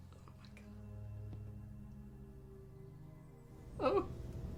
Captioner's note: whispers